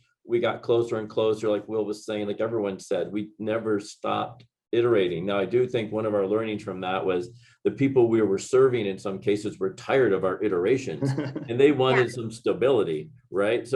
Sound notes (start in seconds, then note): 11.0 giggling